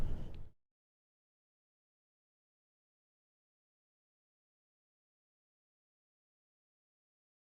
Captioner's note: silence